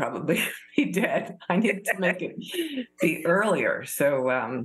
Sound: laughter

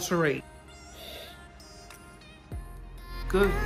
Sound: sniffs

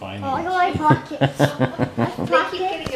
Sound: laughing

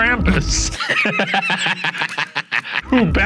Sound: laughing

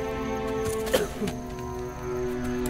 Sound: coughs

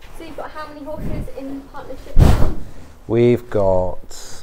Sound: bang

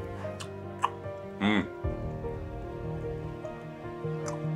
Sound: chewing

